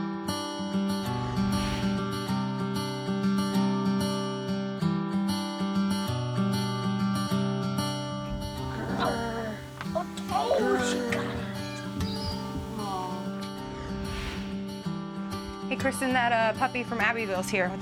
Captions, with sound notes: (light music) (kid growling) - Hey Kristin, that puppy from Abbeville's here